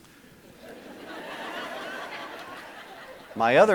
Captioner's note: audience laughing